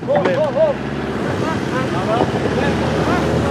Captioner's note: engine noises, scraping noises